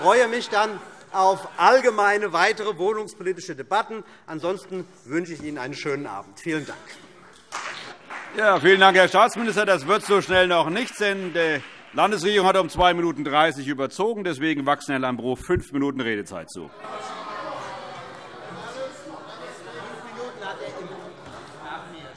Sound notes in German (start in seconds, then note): 7.4 Beifall CDU und BÜNDNIS 90/DIE GRÜNEN